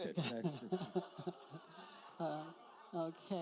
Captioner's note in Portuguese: risos da plateia